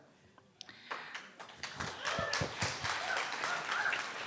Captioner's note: clapping